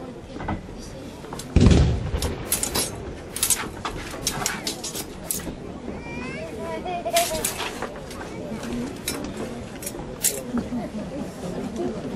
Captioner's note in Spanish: suena un cañón, chocan las espadas